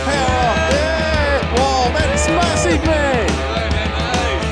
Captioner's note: man whooping